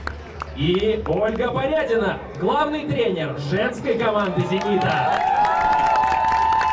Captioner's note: applause